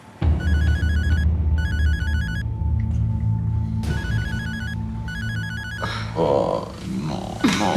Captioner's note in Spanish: timbre de teléfono